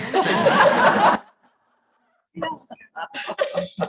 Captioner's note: chuckling